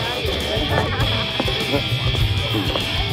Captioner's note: Laughs